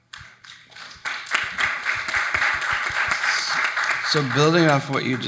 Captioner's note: audience applauding